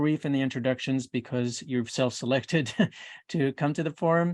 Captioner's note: chuckles